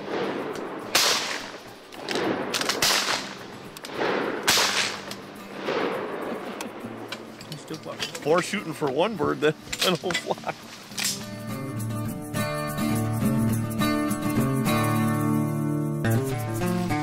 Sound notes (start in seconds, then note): 0.0 gunshots; 9.9 laughing